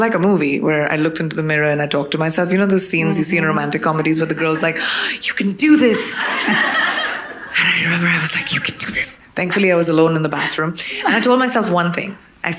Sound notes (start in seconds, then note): 5.8 audience laughing